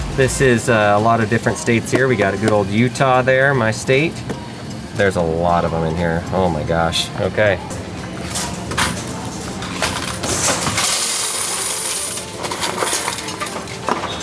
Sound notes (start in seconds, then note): 8.2 upbeat music; 9.7 coins rattling